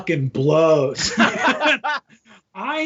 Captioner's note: all laughing